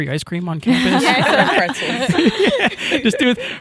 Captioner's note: all laughing